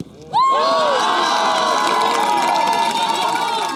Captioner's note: cheering